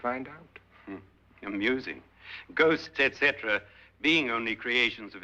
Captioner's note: chuckles